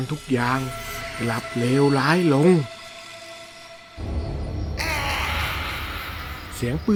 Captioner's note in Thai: เสียงกรีดร้อง